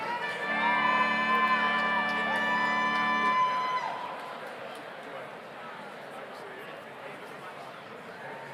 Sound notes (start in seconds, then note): 0.0 overlapping chattering; 0.3 audience cheers